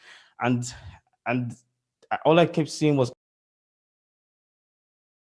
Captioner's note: silence